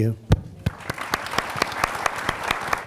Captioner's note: applause